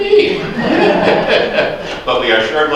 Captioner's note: laughter